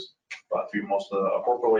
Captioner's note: speaking faintly